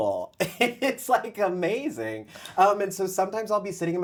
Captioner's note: laughs